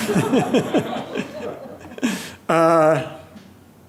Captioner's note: laughing